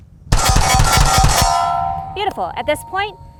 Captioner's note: shots firing at steel target; alarm beeping